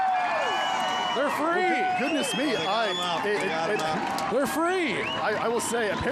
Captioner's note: cheering